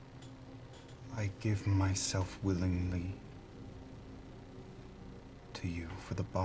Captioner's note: haltingly